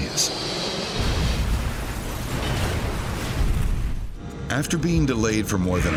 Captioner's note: explosion thuds